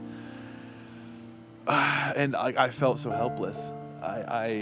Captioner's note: sighs